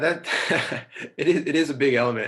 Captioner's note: laughing